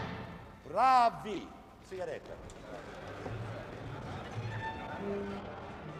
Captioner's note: orchestra stopping; speaking foreign language